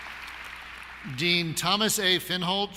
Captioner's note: applause